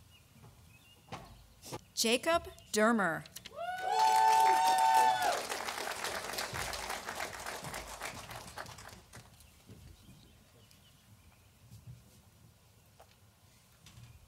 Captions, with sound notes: Jacob Deremer, (audience applauding)